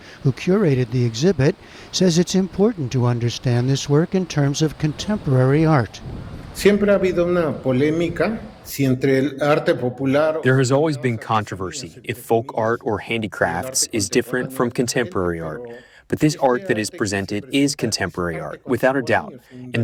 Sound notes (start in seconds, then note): 10.9 through translator